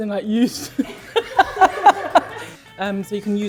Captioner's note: all laugh